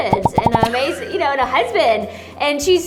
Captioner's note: laughs